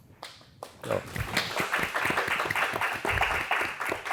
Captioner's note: applause